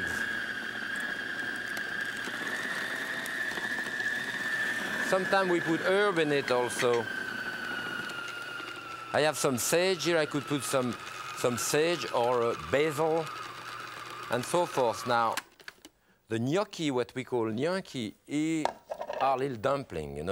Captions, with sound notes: (egg cracking) (food processor blending) Sometime we put herb in it also. I have some sage here, I could put some sage or basil and so forth. Now the gnocchi, what we call gnocchi are little dumpling.